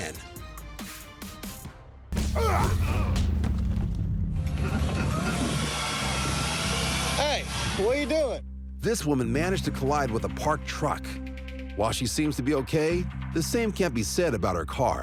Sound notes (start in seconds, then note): 2.2 men grunting; 5.8 whirring